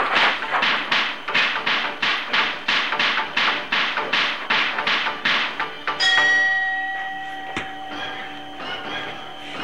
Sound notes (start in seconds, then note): 1.3 karate strikes & blocks; 6.0 boxing bell